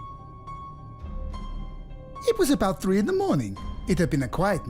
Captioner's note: voice over